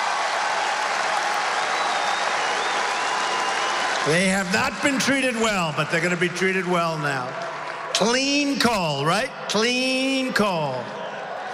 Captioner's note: applause